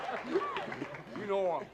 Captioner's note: laughter